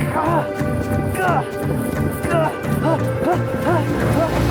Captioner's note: grunting